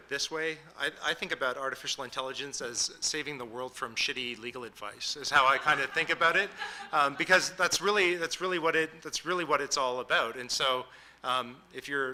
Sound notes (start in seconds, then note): 7.1 audience laughing